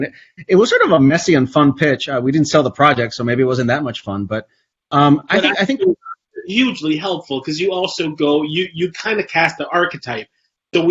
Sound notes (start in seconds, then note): 5.1 Jose's mic warbles